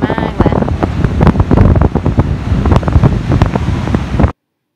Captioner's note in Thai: เสียงลม